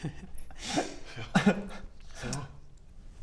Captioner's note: nervous giggles